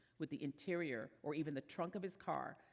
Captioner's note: none